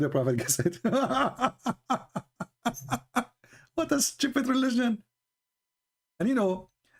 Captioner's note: Ketawa